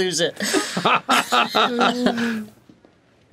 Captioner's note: laughing continues